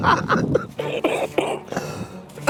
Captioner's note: laughing; coughing